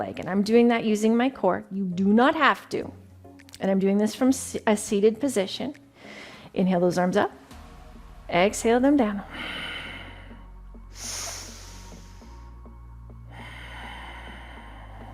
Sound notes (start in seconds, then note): 7.3 slow, upbeat music; 9.2 exhales; 10.8 breathes deeply